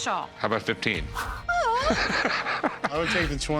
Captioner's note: laughs